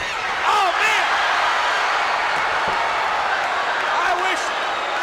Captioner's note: crowd cheers and boos